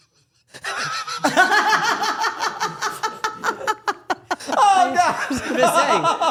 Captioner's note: Dylan and Stephanie laughing